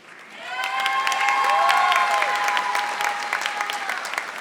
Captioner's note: audience applauding